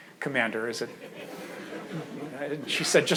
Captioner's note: audience laughs